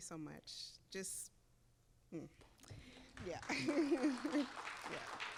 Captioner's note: chuckling; audience applauding